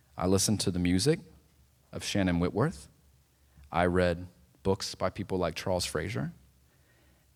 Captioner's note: none